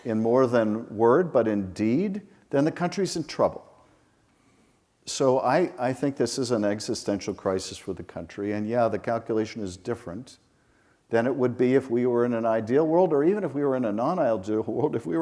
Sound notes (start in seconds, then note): none